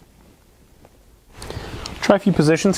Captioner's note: pause